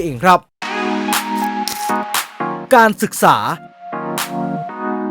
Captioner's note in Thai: ปรบมือ